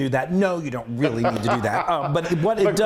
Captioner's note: laughter